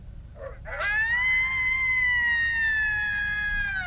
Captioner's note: howling